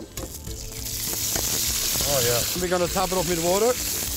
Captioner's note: sizzling